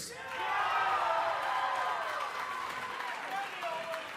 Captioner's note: cheers & applause